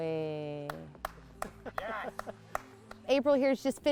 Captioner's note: people clapping